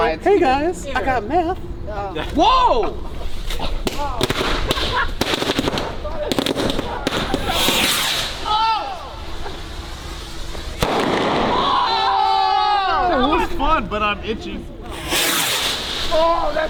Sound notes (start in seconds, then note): 3.1 fireworks exploding; 10.0 firework explodes; 12.0 crowd; 14.5 swooshing